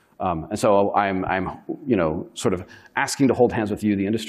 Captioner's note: none